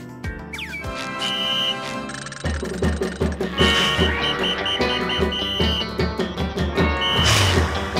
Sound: whistle blowing, music playing

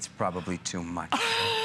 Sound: laughter

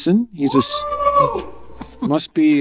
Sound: audience cheering

